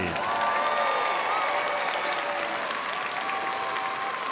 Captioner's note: crowd applauds